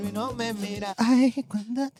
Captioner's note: speaking In Foreign Language